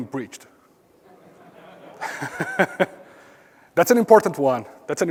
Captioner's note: laugh